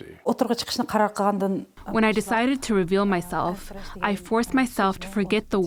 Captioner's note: through translator